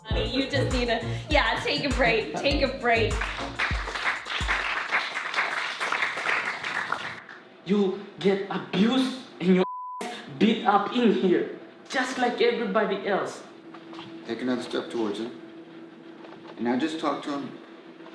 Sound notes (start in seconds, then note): 3.1 applause